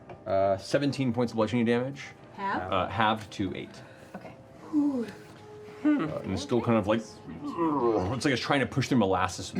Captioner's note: grunting